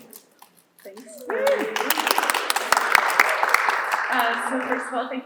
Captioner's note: applause